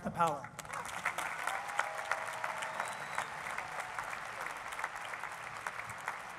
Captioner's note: applause